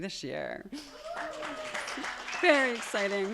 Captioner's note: attendees cheering and applauding